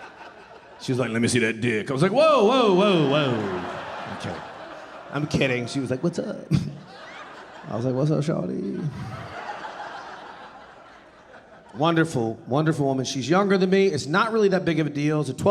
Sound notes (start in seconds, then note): 3.4 audience laughing; 9.1 audience laughing